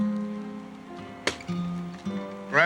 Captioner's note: whack